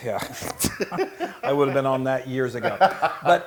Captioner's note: laugh